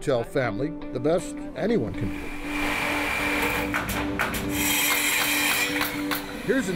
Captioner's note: construction drilling